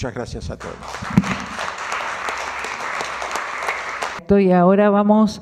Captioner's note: clapping